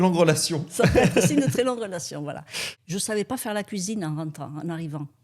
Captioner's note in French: rires